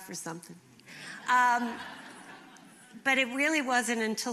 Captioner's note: laughter